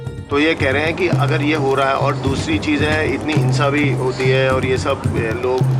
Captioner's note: foreign language speaking